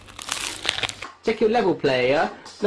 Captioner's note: baguette crunches